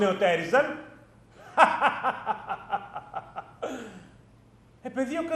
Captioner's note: γέλιο